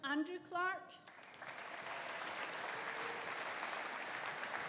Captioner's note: audience applauding